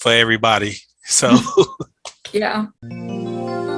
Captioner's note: chuckling